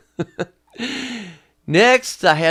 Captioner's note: laughing